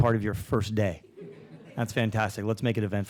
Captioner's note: audience laughing